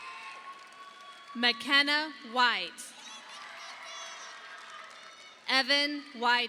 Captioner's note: audience applauding